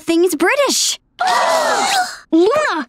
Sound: gasps

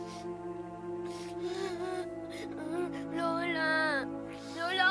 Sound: crying

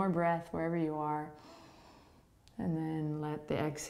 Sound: inhaling

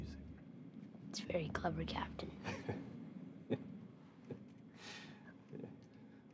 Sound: laughs

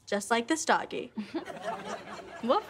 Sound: audience laughing

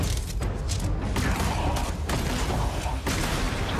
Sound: grunting

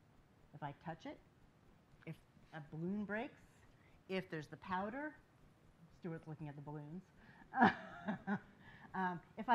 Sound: laughs

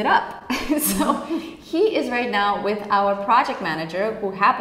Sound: laughing

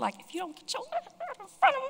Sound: angry noises

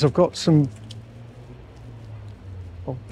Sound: forklift engine roaring

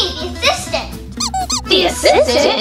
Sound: toy squeaking

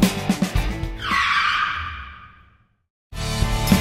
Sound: tires screeching

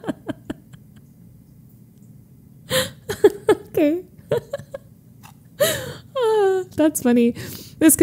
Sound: laughs

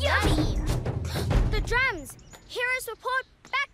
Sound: drumming; gasps

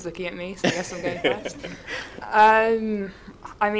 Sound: laughs

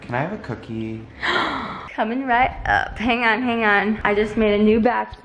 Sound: gasps

